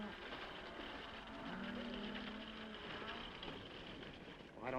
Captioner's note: horse hooves clopping; cows mooing